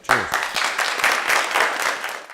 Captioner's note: applause